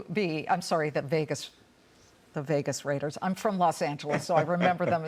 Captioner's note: laughter